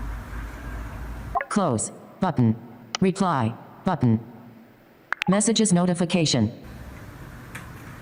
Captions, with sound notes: - [Automated Voice] Close, button, reply, button, messages notification.